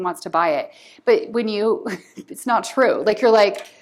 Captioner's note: laughter